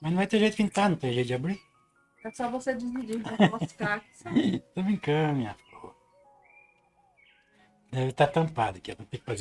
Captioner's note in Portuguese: risadas